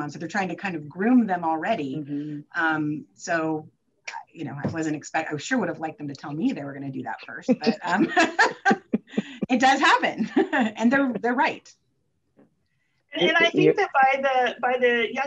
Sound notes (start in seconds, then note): 7.5 both chuckles; 10.2 chuckles